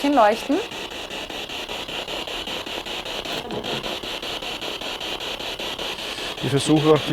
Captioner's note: noise of the spiritbox in the background